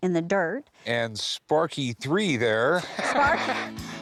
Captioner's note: laughs